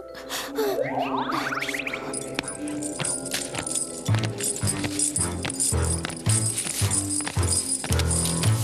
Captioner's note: chains jangling